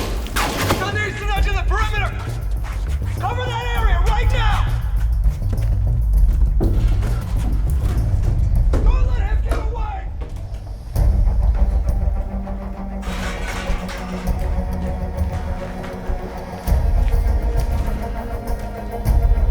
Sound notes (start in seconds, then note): 5.7 plywood scraping; 12.4 pipes rattling